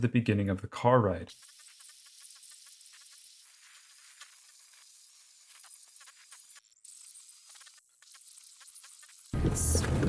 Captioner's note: rewind sound